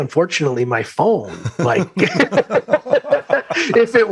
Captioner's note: laughter